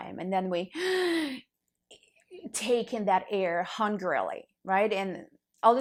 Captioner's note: loudly breathing in